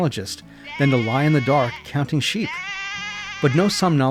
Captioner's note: sheep bleating—baaa!